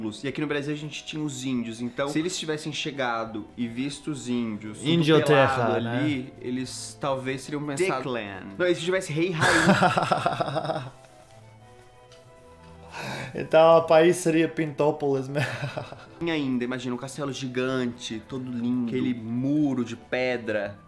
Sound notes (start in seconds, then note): 9.4 laughs; 15.4 laughs